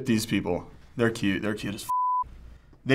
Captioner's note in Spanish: pitido